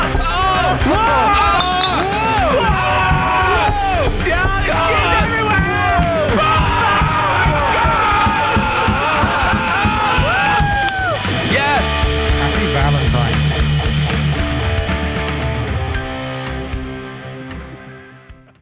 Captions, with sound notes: Ohawwoo Woooahow *More screams*